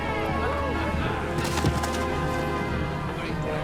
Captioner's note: thud